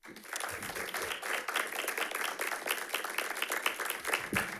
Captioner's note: audience clapping